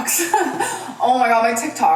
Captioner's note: laughs